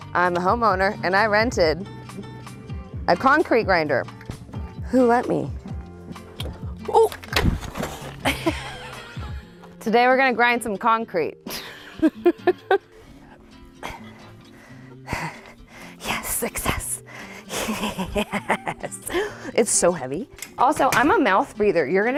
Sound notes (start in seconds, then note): 7.3 machine thuds; 15.5 pants